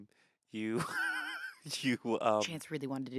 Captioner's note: laughs